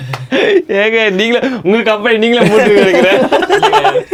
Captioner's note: group laughs; group laughs; laughs